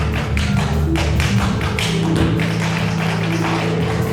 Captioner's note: audience applauds; audience cheers; dancer's feet tapping